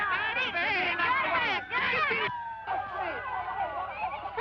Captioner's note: siren wailing